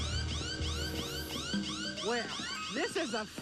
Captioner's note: alarm blaring